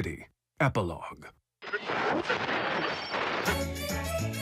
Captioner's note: radio static; upbeat music